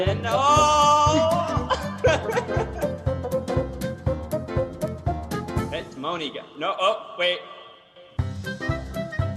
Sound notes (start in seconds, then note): 1.0 chuckles